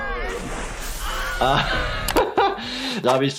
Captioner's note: laughing